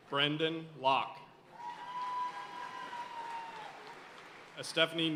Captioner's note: audience cheering and applauding